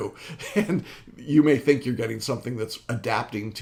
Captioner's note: laughs